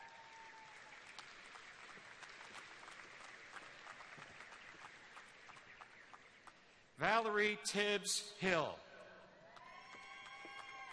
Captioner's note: names being read, cheers and applause throughout